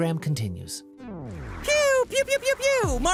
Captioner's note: dance music; record scratch